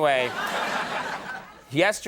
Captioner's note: audience laughing